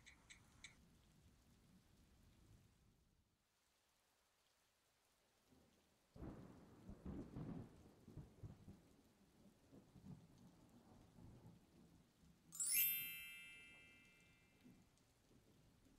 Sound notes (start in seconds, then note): 12.0 cellphone beeping